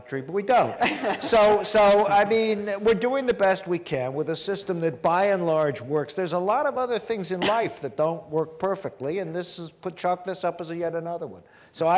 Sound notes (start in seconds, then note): 0.6 laughter